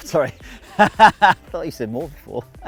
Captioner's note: laughing